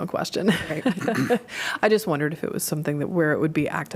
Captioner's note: laughter